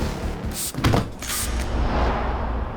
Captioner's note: spray sound